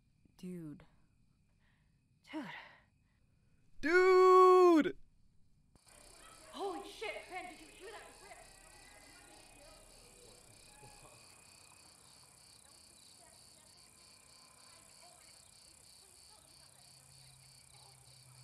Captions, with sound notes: Dude. Dude. Duuuuuuuuuude!!!!! (Distant chatter)